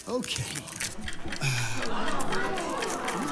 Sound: clock ticks

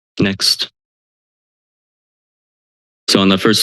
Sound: silence

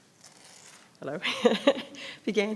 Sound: laughs

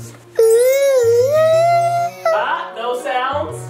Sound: humming

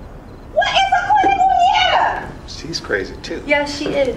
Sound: speaking Spanish

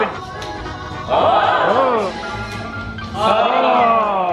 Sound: group yells

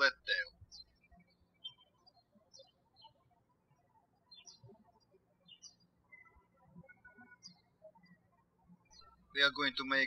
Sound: birds chirping

